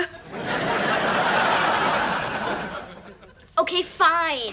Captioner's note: audience laughing